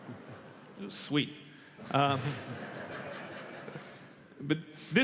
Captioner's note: laughter